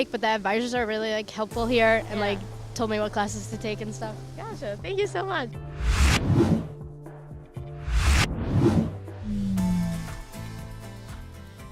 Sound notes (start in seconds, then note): 5.7 swooshing sounds; 8.4 upbeat music